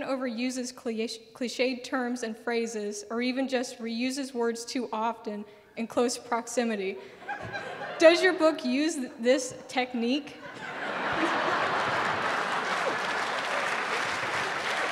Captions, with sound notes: overuses cliche terms and phrases or even just reuses words too often in close proximity. Does your book use this technique? [Audience laughing and clapping]